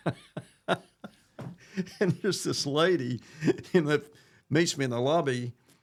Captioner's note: laughs